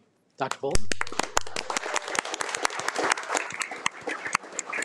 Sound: audience applauding

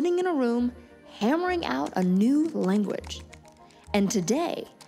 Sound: keyboard clicking

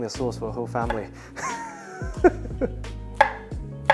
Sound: giggles

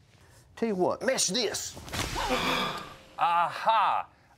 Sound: group gasping

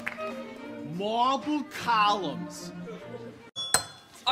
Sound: strong accent

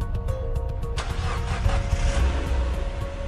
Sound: car starts

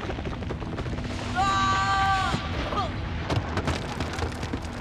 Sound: Lucien screams

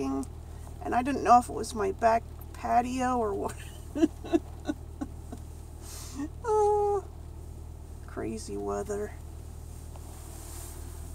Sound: laughs

